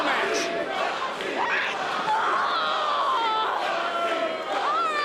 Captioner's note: crowd chants "Roxie"